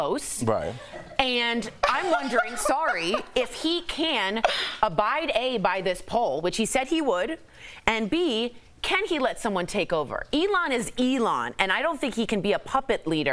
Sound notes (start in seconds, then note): 4.2 laughter